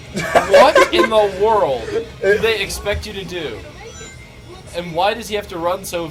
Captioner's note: laughs